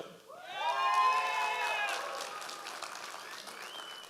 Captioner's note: audience applause